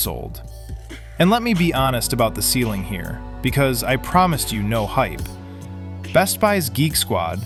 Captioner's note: thoughtful